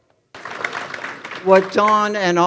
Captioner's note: audience applauding